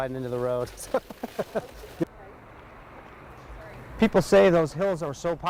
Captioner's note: laughs